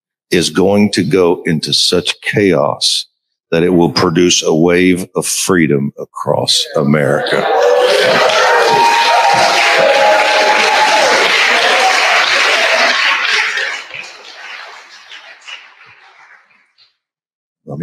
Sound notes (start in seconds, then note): 11.4 crowd cheers